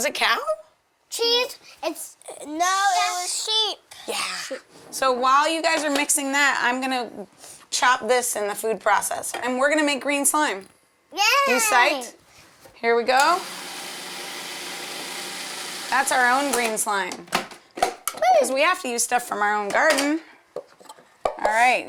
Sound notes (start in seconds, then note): 15.1 blender whirring